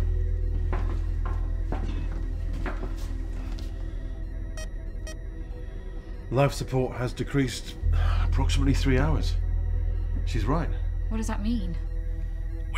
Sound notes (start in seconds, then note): 0.1 soft tense music; 5.0 keypad beeping